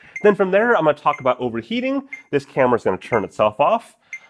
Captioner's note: beep, beep, beep